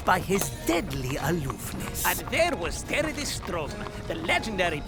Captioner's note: mocking